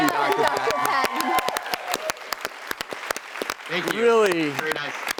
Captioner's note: applause